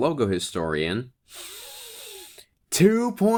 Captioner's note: deep breath